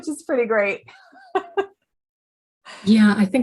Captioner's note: laughs